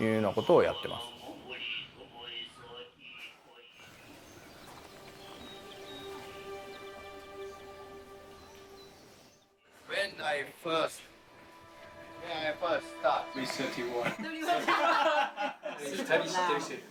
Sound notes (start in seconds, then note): 4.0 birds chirping; 10.1 gentle music